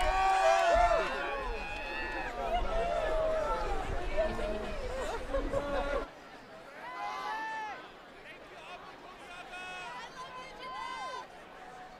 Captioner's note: applause